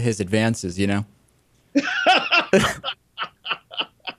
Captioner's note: laughter